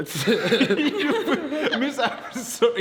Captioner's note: group laughs